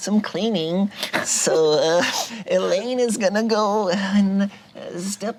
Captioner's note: group chuckles